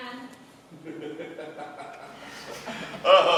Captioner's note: HILDEBRAND chuckles